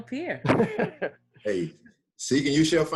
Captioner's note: laughs